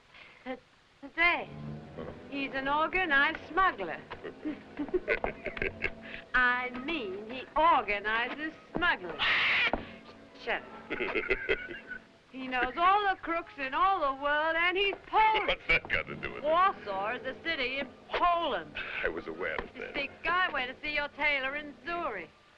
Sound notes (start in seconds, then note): 4.1 both chuckling; 9.1 bird screeching; 10.8 chuckling